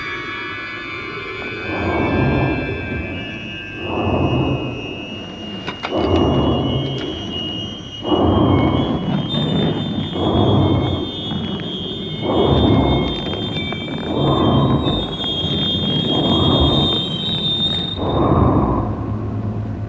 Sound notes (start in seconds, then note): 3.8 low growling